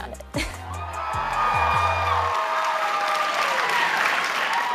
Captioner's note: applause and cheers